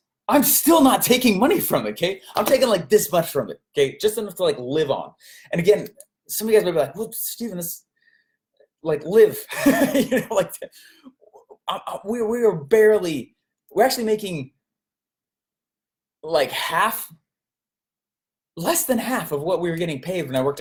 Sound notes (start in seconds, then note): 9.6 laughs